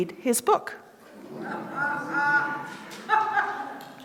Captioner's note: laughter